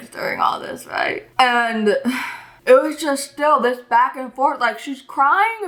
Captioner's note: sighs